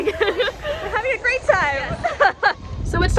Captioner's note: laughing